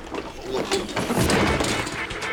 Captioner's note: crash